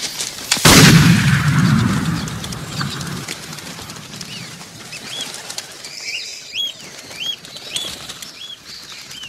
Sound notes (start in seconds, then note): 0.6 gunshot fire as distraction; 3.0 loud bird sounds